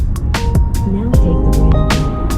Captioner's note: GPS noises